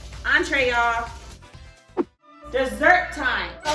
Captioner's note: whoosh